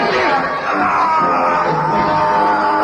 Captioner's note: groaning